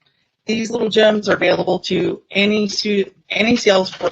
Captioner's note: audio distortion